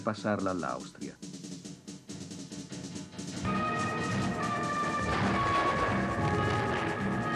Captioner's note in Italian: Applauso